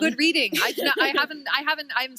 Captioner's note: chuckle